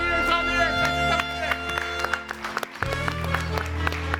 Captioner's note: all applauding; jazzy music